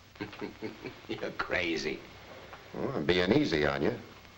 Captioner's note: laughing